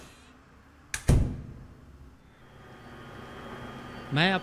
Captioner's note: door close